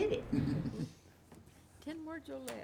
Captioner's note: chuckling